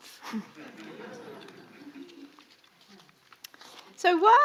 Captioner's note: audience laughing